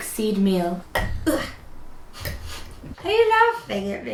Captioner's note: snickers; grunts